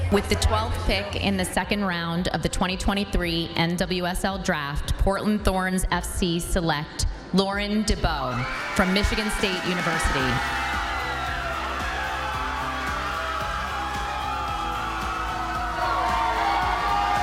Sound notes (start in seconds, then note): 11.1 crowd cheering; 11.1 light instrumental music